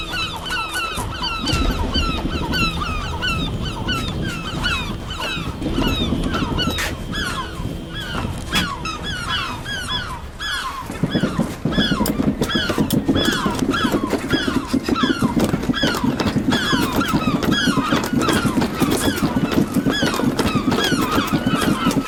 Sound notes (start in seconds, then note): 0.2 gulls squawking; 3.0 latch rattling; 5.9 gulls squawking; 12.6 latch closing; 19.1 gulls squawking